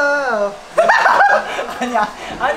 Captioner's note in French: Rires